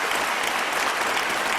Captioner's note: applause